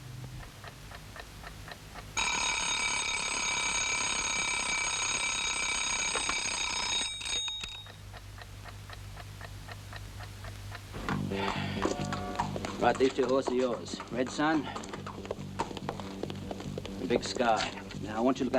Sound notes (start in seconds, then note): 0.4 clock ticking; 2.2 alarm ringing; 11.1 McIntyre sighs; 11.2 rapid instrumental music